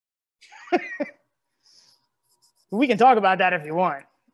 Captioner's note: laughs